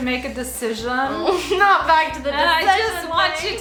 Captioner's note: laughs